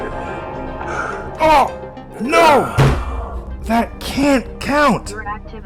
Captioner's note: slams desk